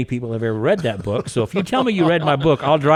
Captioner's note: laughing